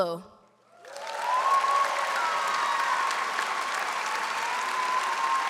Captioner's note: audience cheers and applauds